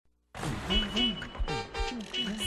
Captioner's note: horn honking